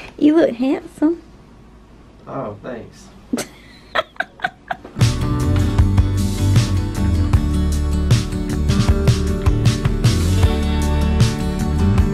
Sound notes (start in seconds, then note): 3.3 laughs; 5.0 soft music